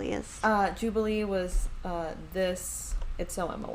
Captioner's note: speaking very softly